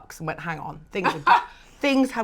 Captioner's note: laughs